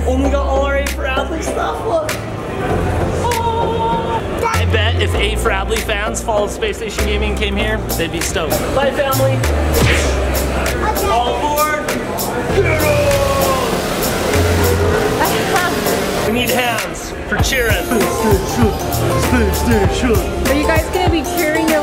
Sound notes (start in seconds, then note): 9.8 hand thumps; 12.2 upbeat electronic music; 13.7 engine growling; 15.2 mom laughs